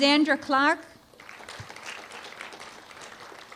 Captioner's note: applause